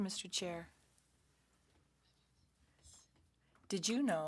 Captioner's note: speaking French